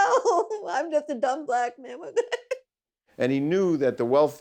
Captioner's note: laughing; laughing